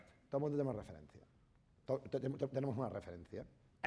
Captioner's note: speaking spanish